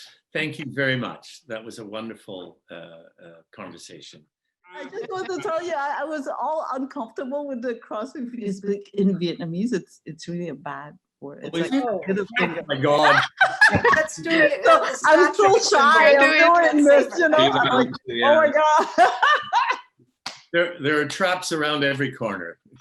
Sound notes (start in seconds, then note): 12.8 laughter; 19.4 laughs